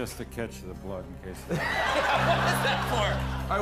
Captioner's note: laughter